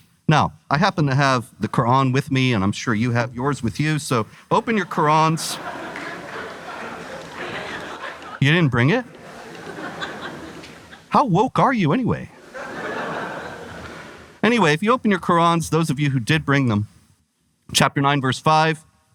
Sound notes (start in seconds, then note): 4.5 audience laughter; 12.3 audience Laughter